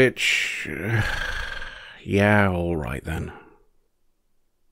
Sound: sigh

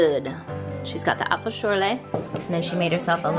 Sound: speaking in foreign language

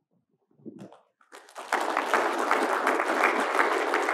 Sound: claps

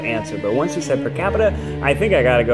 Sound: still talking rapidly

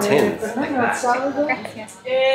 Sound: shopkeeper speaking in Italian

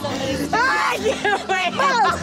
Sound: laughing; yelling; shouting

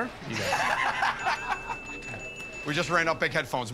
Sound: laughter

